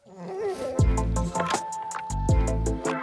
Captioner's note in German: Winseln